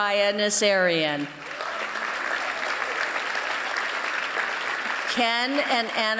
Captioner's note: applause